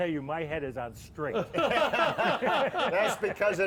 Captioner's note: laugh